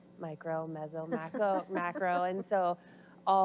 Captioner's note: audience laughs